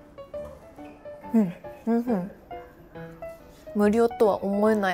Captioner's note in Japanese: ハミング